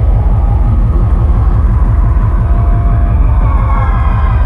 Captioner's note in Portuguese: Gritos Abafados